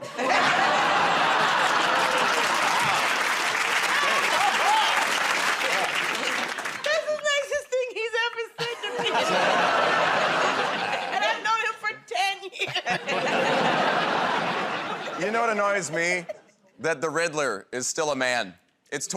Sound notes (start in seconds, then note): 0.0 laughter; 4.2 applause; 12.6 laughing